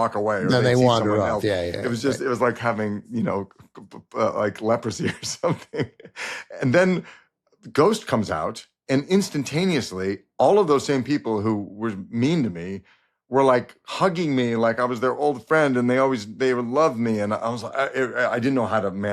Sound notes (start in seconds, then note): 3.9 chuckles